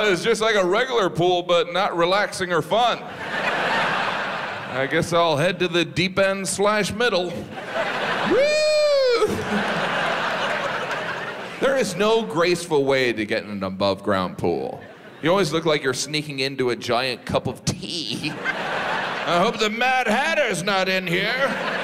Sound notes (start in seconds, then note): 2.9 audience laughs; 7.2 audience laughs; 8.2 Jim cheers; 18.1 audience laughs